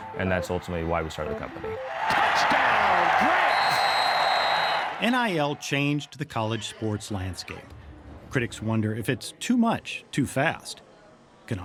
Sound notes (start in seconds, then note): 3.7 crowd cheering